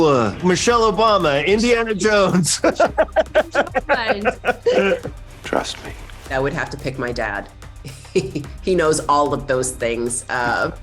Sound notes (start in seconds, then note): 0.0 groaning; 2.2 laughs